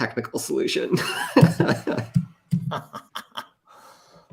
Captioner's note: laughter